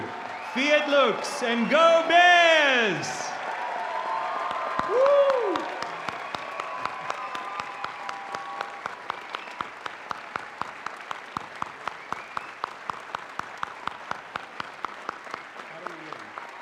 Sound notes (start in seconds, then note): 2.5 cheering; 7.2 applause